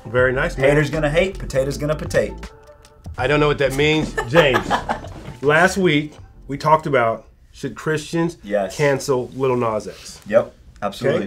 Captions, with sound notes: - Very nice. - Haters gonna hate, potatoes gonna potate. - I don't know what that means, James. (laughs) Last week, we talked about: Should Christians cancel Lil Nas X? - Yup, absolutely.